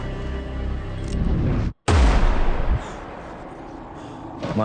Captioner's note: gunshot